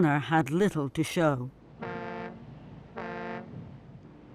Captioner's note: ship's horn blaring